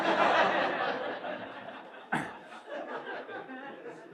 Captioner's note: laughter